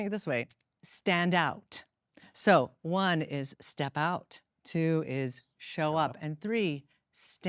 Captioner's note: none